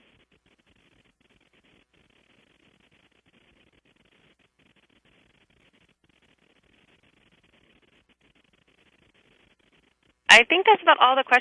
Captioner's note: pause